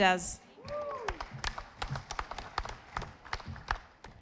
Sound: audience applauding

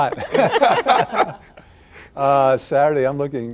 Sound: laughter

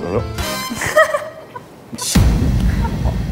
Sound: laughing

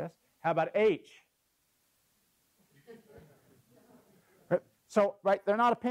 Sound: laugh

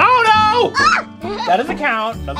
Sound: laughs

